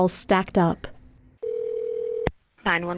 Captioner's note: phone ringing